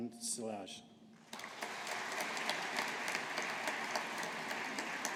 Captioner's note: audience applauding